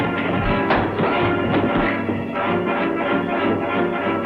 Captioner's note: punch lands